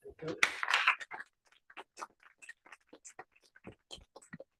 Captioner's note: applause